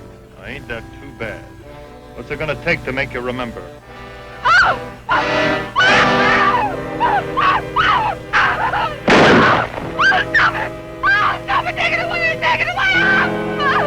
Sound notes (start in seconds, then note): 5.0 Hazel screaming; 9.0 gun fires; 13.6 Hazel screaming